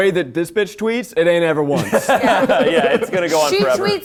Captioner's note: all laughing